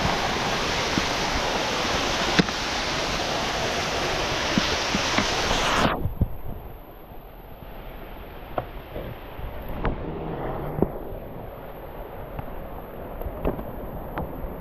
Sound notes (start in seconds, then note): 0.0 wind blowing; 3.1 water splashing